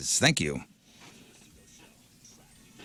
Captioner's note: people Chattering